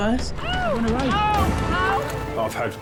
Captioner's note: casualty screaming